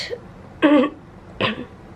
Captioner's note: clears throat